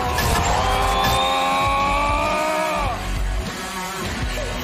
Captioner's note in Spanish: grita